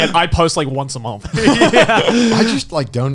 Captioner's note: Garnt and Joey laughing; Garnt laughing